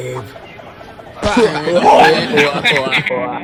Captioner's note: laughing